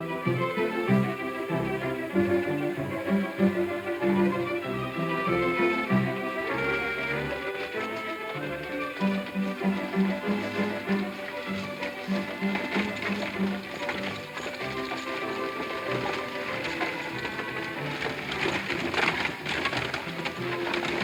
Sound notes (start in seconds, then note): 0.1 melodic orchestral music; 6.7 metal jingling; 6.7 stagecoach wheels rolling